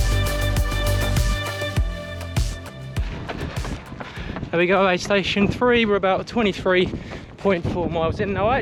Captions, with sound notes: (ground crunches) And we've got aid station three. We're about 23.4 miles in now.